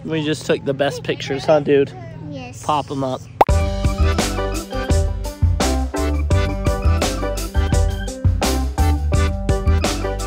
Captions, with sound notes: We just took the best pictures, huh dude? - Yes. - Pop 'em up. (popping sound) (playful music)